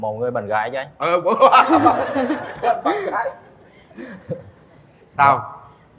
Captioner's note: laughter